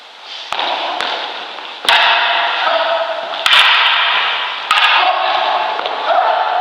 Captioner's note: staves clacking and grunts of exertion